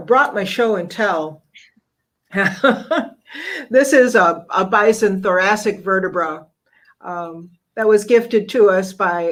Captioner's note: laugh